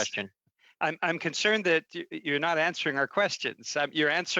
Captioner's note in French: voix de l'interprète